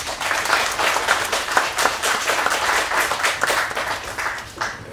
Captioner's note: applause